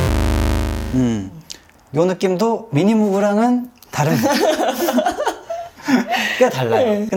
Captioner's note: laughing